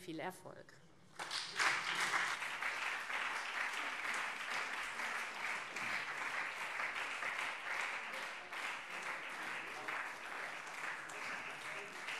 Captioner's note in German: Beifall SPD und CDU